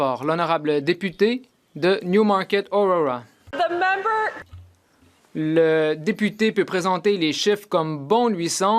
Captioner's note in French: voix de l'interprète